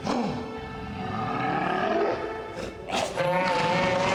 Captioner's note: growling